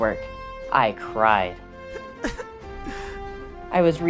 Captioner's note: crying